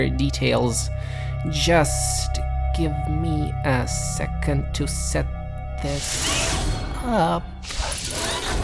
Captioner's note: mechanical dragging